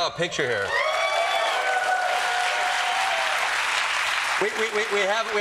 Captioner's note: applause